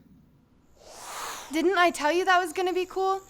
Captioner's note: whoosh